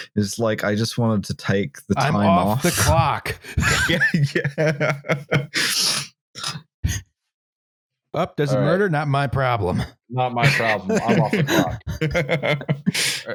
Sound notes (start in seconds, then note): 1.9 laughing; 10.4 laughter